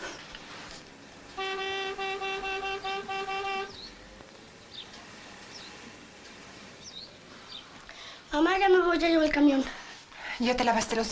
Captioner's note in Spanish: Tocan bocina